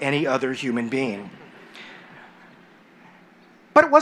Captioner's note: laughter